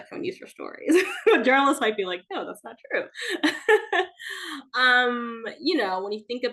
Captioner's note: laughs